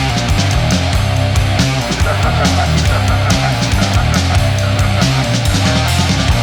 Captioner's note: laughter